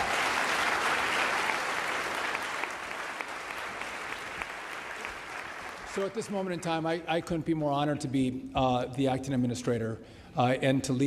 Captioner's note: applause